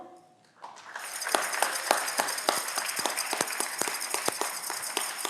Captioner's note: audience clapping